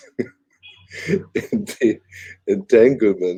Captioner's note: laughs